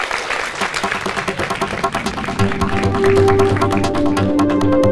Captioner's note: applause; applause + Music